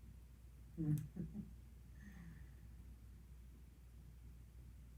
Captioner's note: chuckles